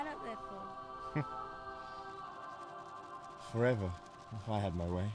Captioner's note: Daniel chuckles